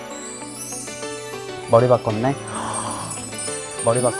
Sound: talking like a nice guy

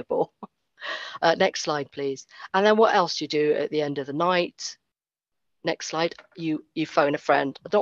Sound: laughs

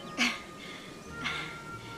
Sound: laughs

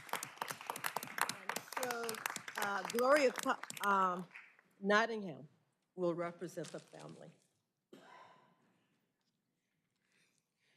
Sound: applause

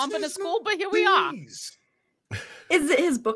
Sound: laughing

